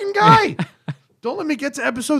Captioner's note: laughter